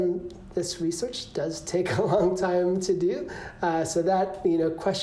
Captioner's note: laughter